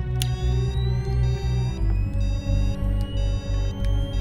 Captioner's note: beeping